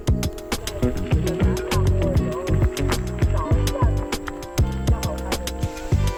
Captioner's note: laughs